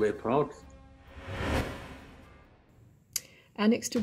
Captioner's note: air whooshing